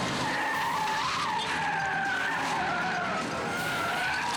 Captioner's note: tires skidding